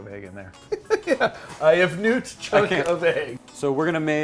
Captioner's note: laughing